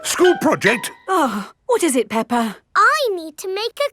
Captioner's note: gasps; sighs